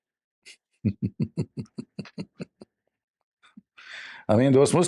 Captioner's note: Ketawa